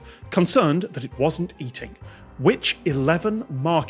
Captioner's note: none